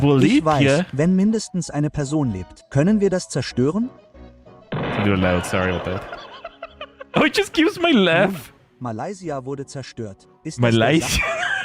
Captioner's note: laughter